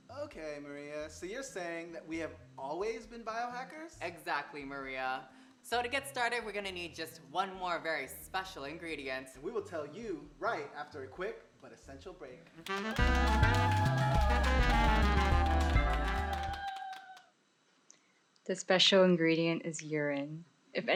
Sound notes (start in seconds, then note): 12.6 jazzy music; 12.6 clapping and cheering